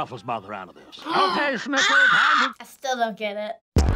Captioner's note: gasps; techno intro